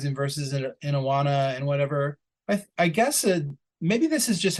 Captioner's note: none